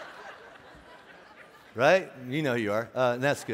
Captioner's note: laughing